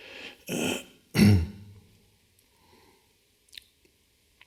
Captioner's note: clears throat